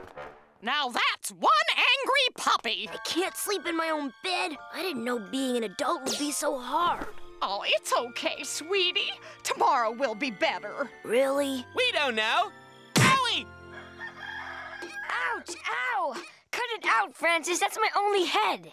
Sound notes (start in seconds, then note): 13.7 rooster crowing